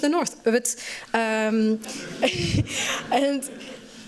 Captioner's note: laughter